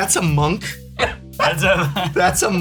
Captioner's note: laughs